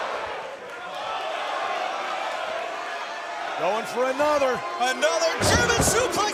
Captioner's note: crowd chatter